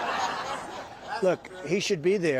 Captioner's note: laughter